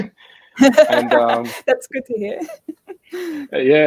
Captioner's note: laughing